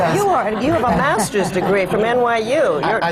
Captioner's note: laughter